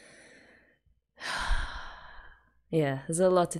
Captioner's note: sighs